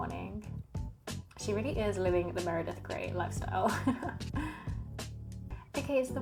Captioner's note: laughs